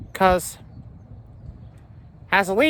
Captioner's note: none